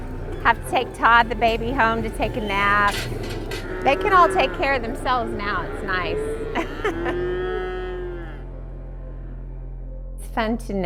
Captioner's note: laughs